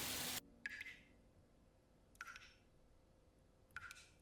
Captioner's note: dripping tap